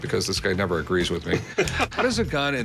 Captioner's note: laughs